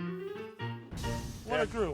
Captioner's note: grill sizzling sound effect